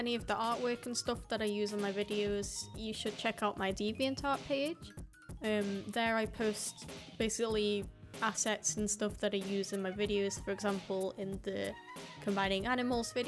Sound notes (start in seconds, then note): none